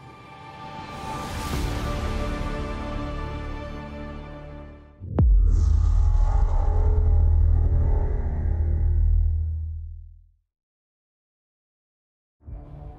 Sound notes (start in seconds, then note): 5.0 transition sound